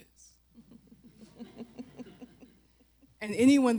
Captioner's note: laughter